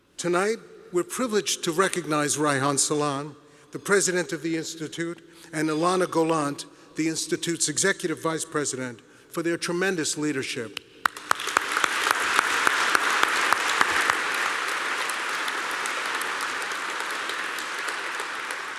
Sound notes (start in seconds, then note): 11.0 applause